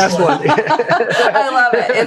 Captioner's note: laughter